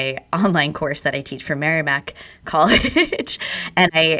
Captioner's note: laughs